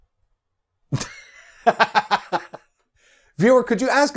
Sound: laughs

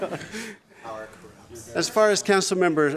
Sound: laughter

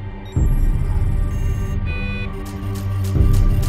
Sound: devices beep; digital locks click

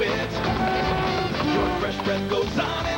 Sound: traffic noise

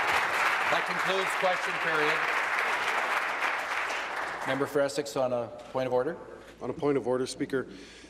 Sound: applause

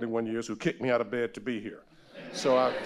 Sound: audience laughing

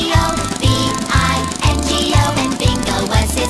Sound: car engine purring

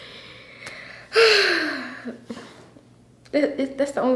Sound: interviewee sighs

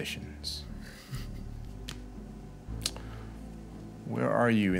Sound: light laugh

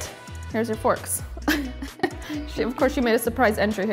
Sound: laughs

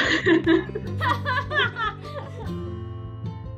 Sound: laughing

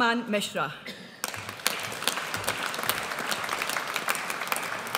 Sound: audience applauds

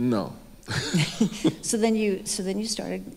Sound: both chuckle

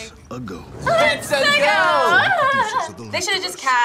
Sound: laughs

